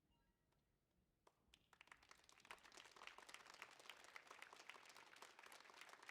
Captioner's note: audience applauding